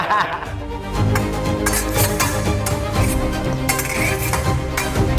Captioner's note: laughter; swords clashing